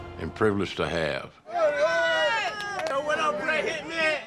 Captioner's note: onlookers cheering